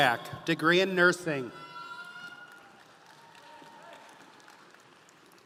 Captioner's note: audience applauding